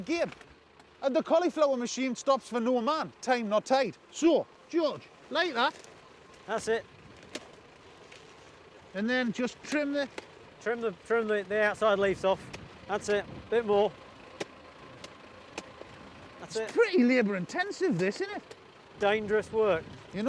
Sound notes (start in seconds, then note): 7.3 machete thumps; 14.3 machete thumping